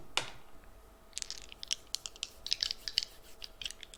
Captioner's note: dice clattering